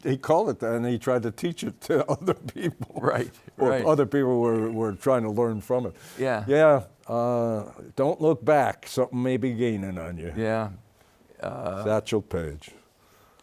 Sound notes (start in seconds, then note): 1.7 laughs